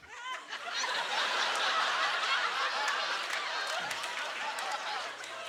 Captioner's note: audience laughter